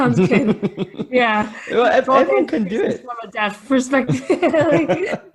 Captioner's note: laughing and talking over each other